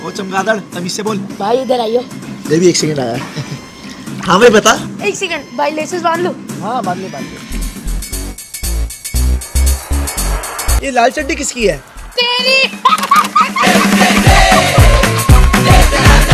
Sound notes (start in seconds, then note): 12.5 laughing